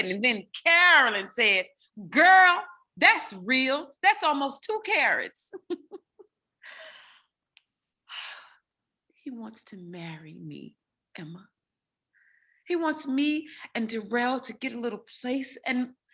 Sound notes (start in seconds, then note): 5.4 laughs; 8.4 sighs